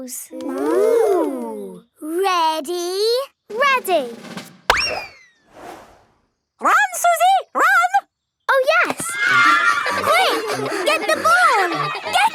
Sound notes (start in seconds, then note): 4.5 bang; 8.8 excited cheering